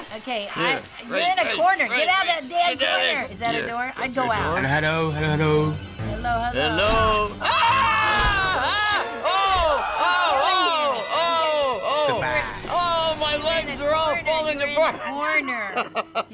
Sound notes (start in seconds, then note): 8.2 axe hacking; 14.6 laughing